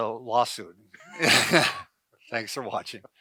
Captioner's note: both laughs